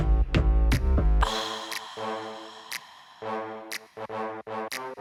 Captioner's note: satisfied exhaling